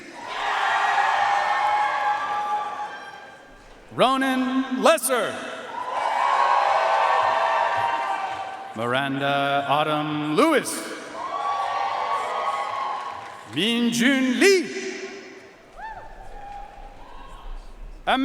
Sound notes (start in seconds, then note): 0.1 audience cheering and applauding; 5.7 audience cheering and applauding; 11.1 audience cheering and applauding; 15.7 audience cheering and applauding